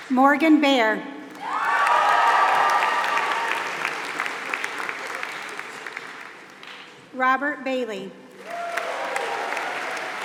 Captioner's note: applause